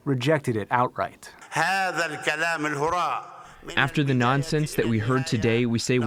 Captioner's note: through translator